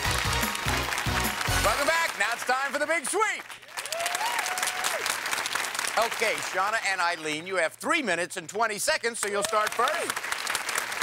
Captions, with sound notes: -Welcome back. Now, it's for the Big Sweep. (cheers and applause) Okay. Shawna and Eileen, you have three minutes and 20 seconds, so you'll start first.